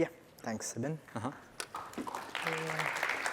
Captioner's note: applause